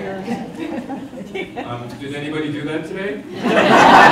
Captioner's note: audience laughter